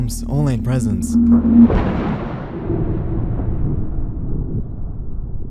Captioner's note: thunder crackling; air whoosh